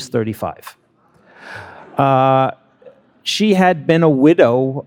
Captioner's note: attendees laughing